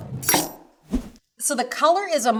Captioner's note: knife chops